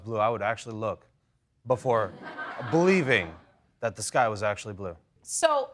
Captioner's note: audience tittering